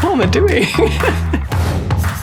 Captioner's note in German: lacht